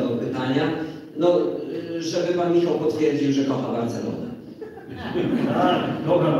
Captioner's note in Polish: Śmiech z sali